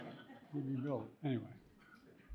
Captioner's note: audience laughing